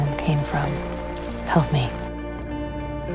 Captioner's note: voiceover